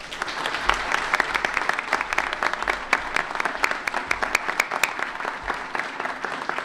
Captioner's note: applause